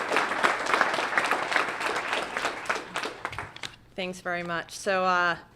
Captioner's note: applause